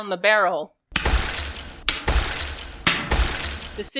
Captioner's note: muffled thud of bullets piercing a body